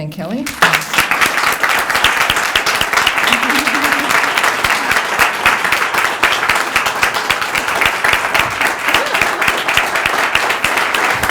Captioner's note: applause